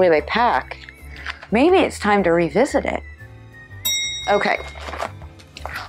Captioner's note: bell dinging